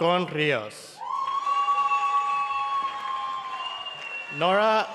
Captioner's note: cheering and applause